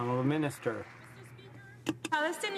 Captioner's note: some Applause